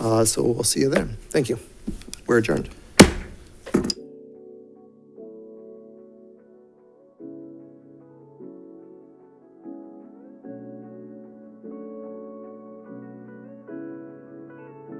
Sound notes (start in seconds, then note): 2.9 gavel banging; 3.9 uplifting instrumental music